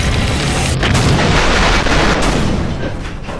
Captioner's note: bang!!